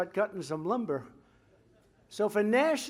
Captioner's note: laughter